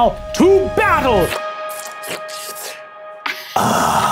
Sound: man slurping

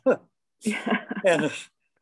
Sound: chuckling

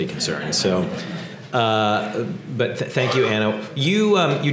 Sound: laugh

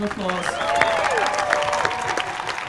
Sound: applause and cheers

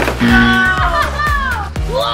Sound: buzzer

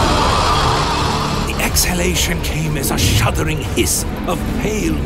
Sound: air Whooshing

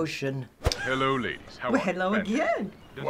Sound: snickers

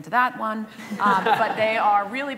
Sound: laughter

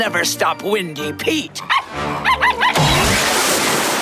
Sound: barking

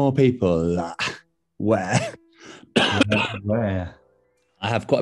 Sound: coughs

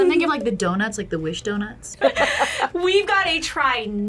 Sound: laughs

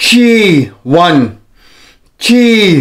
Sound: inhales

